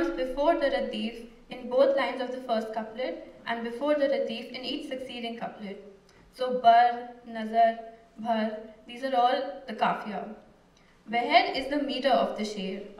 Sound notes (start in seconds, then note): 6.6 non-english speech